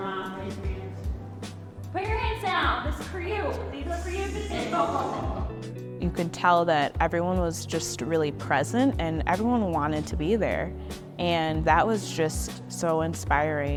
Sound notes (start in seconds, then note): 4.5 laughter